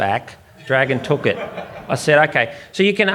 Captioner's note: audience laughs